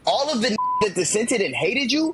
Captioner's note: beep